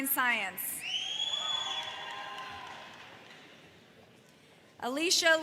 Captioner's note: audience whistles in admiration